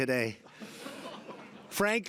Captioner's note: laughter